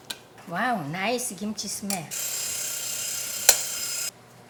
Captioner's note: alarm rings